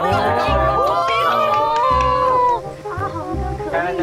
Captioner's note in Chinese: 欢呼！